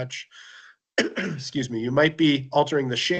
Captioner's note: coughs